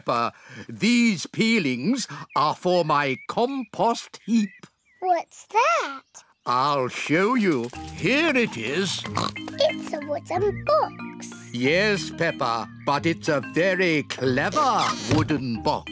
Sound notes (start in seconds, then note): 8.9 oinks